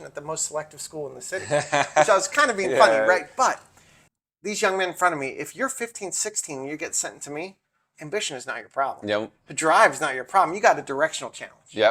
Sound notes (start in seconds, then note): 1.3 laughing